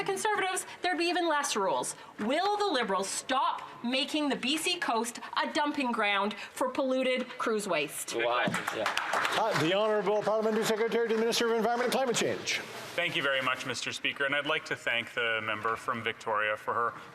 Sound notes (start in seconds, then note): 12.7 some Applause